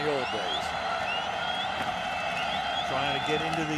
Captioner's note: cheering